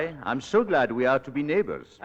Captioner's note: none